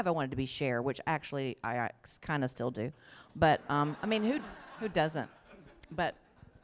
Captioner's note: laughter